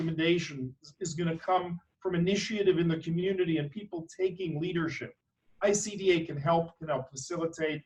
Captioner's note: none